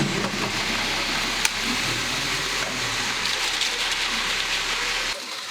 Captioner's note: concrete truck whirring